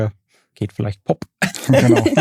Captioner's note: alle lachen